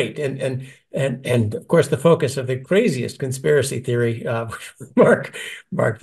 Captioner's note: laugh